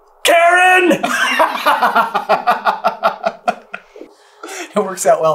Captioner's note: laughter